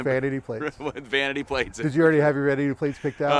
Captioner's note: laughter